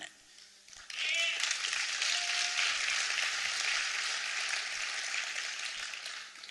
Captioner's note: applause